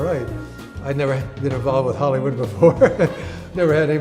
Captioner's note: laughs